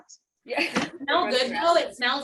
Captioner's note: laughter